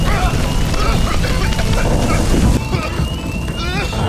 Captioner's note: coughing and spluttering